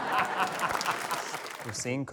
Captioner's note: laughter; applause